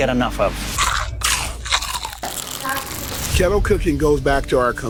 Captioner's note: chicken crunching